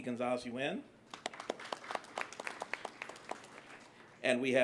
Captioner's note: applause